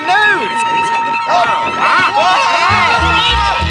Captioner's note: all exclaiming